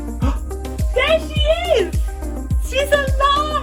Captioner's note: gasps